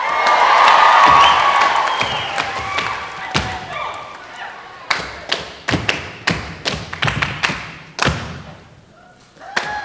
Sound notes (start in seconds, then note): 0.0 audience applauding and cheering; 5.3 tapping